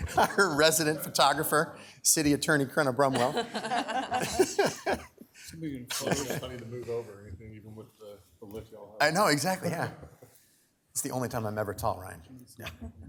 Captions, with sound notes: Our resident photographer, City Attorney Crenna Brumwell. (everyone laughs) - Tell me to move over or anything, even with the- - I know exactly. Yeah. It's the only time I'm ever tall, Ryan.